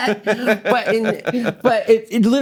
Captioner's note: laughing